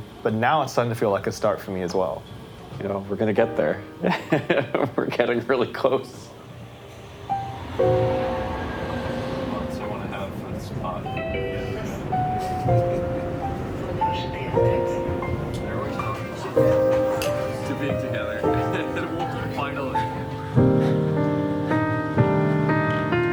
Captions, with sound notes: But now it's starting to feel like a start for me as well. You know, we're gonna get there. - [laughs] We're getting really close. [gentle music] I wanna have a spot. [laughs] [glasses clink] To being together. - To water, finally. [gentle music]